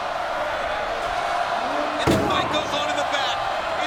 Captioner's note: crowd roars